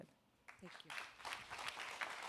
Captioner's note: applause